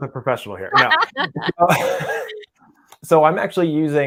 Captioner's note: laughs loudly